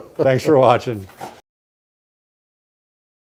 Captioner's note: laughs